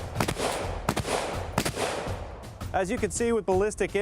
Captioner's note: shooting